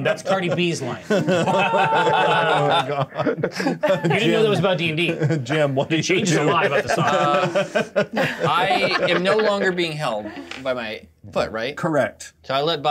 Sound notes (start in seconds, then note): 1.5 co-hosts laughing; 5.0 laughs